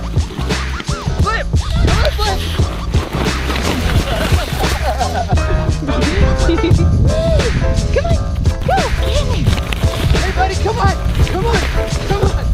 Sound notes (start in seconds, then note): 4.4 laughing